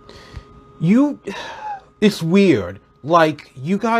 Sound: sigh

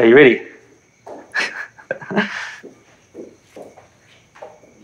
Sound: chuckling

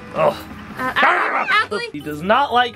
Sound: growls

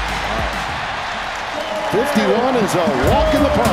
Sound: crowd cheering

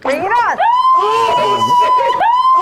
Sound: starts screaming

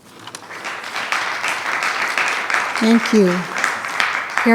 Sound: attendees clapping

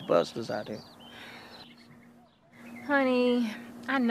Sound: sighs

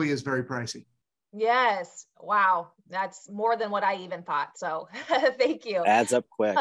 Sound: chuckles

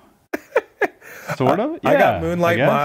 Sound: Chris laughs

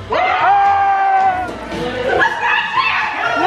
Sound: group cheers

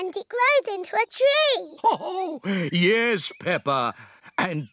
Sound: laughs

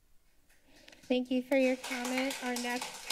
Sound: applause

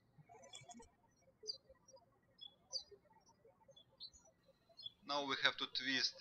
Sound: birds chirping

